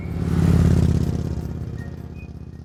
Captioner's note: motorbike roaring